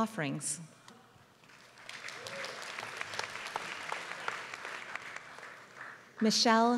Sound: applause

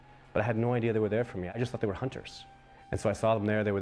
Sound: voiceover

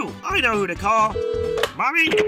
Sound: phone call sound

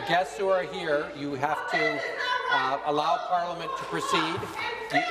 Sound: woman shouting

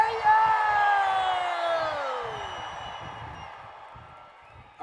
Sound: crowd cheers

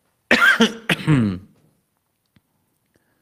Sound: coughs

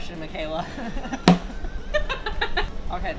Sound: laughter

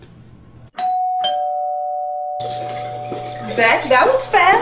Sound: doorbell ringing

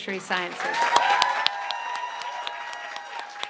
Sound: applause

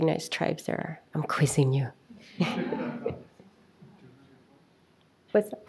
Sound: audience chuckles

